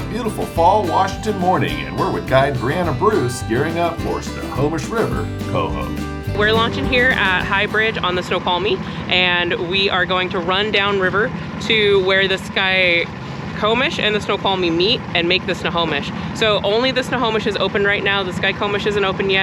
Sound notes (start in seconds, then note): 5.8 boat engine running